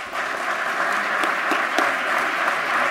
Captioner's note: applause